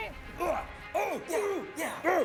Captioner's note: grunting